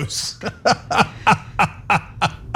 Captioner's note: laugh